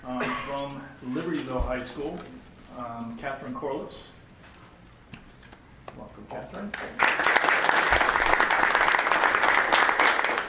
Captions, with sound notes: From Libertyville High school, Katherine Corlos. Welcome Katherine. (clapping)